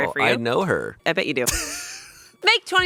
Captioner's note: laughing